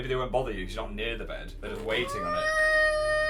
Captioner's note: grumble